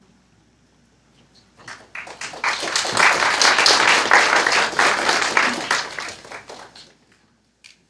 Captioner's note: applause